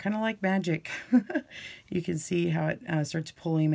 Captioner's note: chuckles